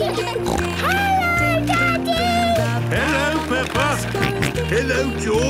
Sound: snorting; George snorting

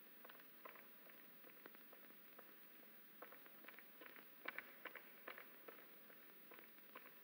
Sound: irena's footsteps echoing

